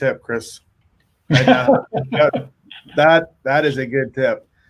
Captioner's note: laughs